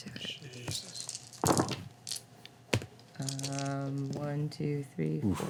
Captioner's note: dice rattling